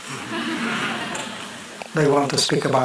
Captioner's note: laughter